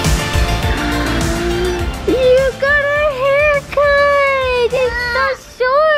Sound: gasps

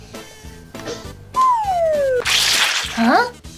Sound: swing flute; apple sploshing

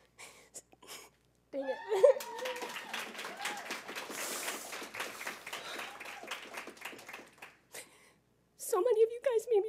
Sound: applause

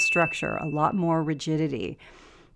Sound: bell sound

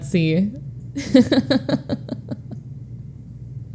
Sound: laughs

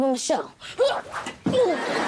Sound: grunting

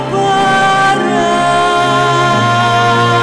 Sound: none

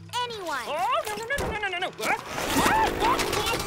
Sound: shrieking

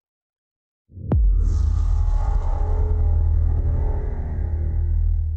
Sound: transition sound

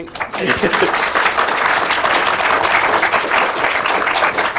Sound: audience applauds

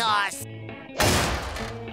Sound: slams

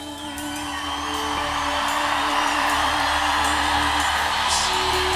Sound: crowd cheers and applauds

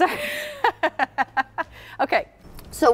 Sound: laughing

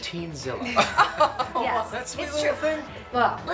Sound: mermaid laughs

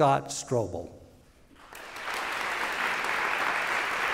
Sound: applause

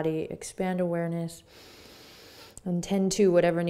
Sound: inhaling

